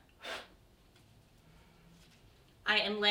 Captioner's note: blows